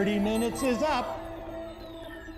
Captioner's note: beeping